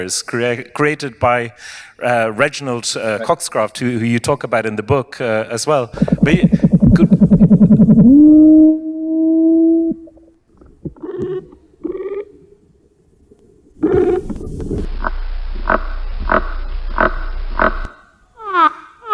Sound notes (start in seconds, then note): 8.4 sounds of tree hoppers